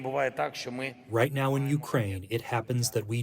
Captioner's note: through translator